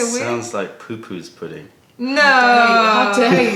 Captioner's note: laughter